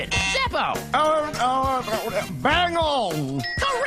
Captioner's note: zeppo stutters